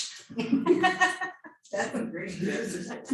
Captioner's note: laughing